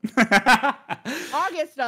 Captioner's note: laughs